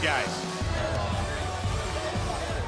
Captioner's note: crowd chatter; crowd cheering